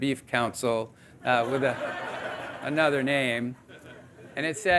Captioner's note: audience laughing